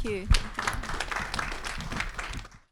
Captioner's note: audience applauding